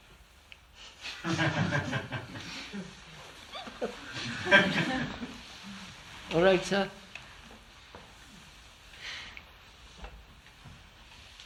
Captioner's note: laughter